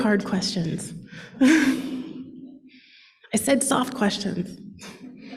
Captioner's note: laughs; laughter